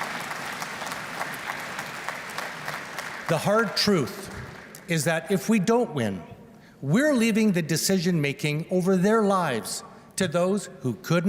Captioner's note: applause